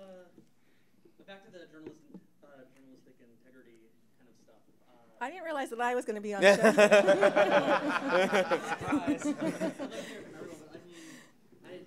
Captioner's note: audience Laughter